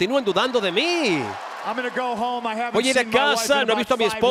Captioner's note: applause